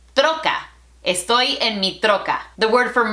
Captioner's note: Spanglish